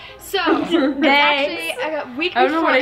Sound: laughing

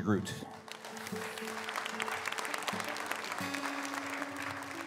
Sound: audience applauds

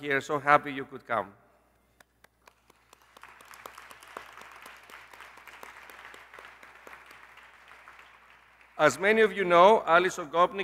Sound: applause

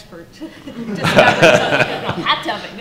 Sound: laughter

